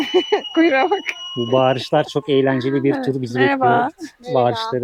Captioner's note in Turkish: kahkaha